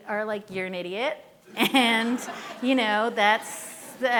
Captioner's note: laughing